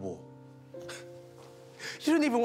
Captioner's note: laughing